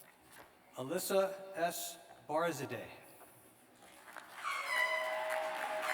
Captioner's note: applause; cheers